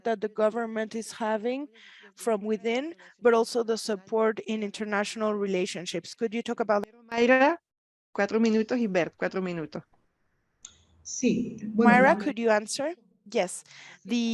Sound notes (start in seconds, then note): 8.5 speaking in Spanish